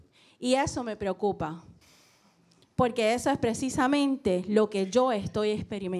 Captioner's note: speaking in foreign language